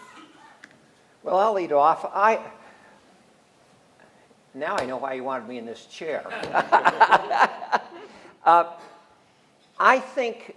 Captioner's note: laughs